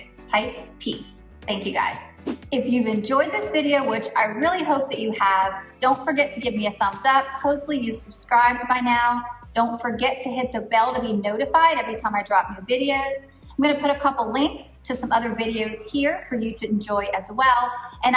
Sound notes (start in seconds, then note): 2.0 air whooshing